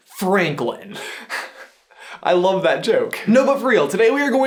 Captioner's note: chuckles